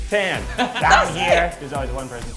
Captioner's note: Tan laughs